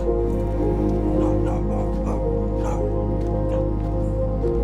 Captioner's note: dog barking